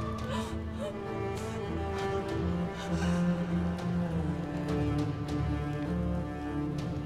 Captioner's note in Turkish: Aslıhan ağlama sesi